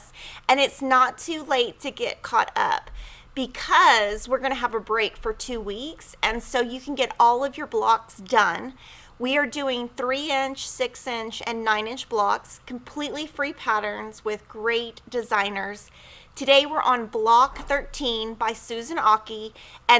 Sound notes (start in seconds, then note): none